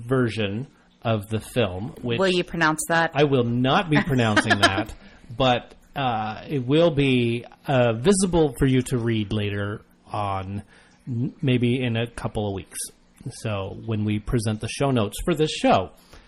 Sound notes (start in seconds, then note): 3.9 laughs